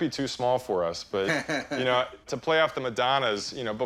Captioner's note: Chumlee laughs